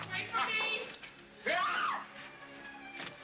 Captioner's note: Carrie screaming; dramatic music